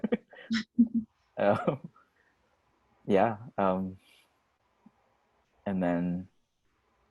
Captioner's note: both laugh